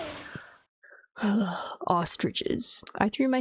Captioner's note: honk; sigh